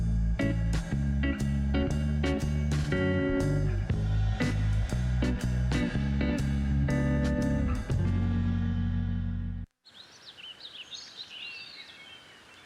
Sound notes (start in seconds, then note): 9.8 bird sounds